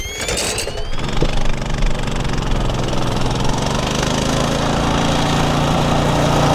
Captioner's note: motorcycle engine revving